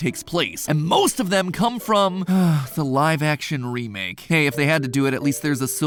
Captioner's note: sigh